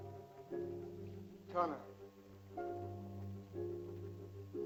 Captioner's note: man speaks in caveman language; tense music